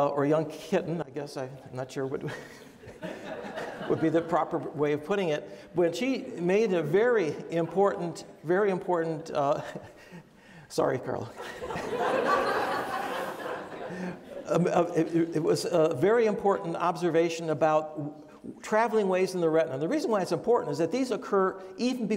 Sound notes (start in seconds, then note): 11.4 audience laughs; 11.4 laughs